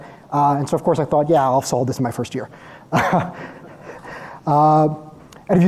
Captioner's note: laughs